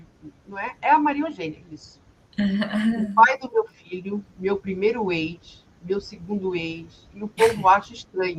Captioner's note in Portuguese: limpando a garganta